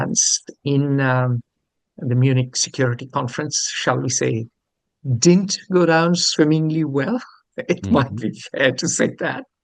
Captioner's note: laughs